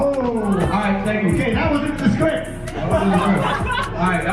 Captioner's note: crowd laughing